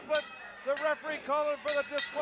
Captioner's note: bell ringing